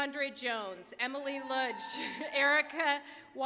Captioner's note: applause, cheering